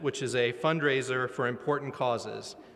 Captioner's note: none